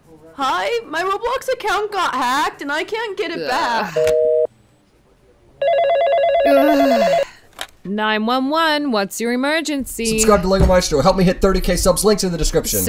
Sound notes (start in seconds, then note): 5.6 phone rings; 6.4 groans